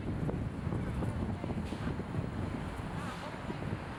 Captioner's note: wind blowing